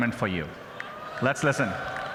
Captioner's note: applause